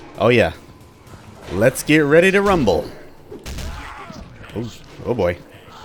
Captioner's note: rumbling commences